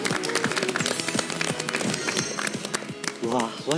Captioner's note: heart beating